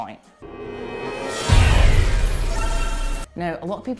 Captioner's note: crashing loudly